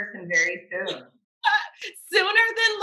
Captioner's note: laughs